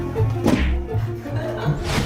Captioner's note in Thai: ชน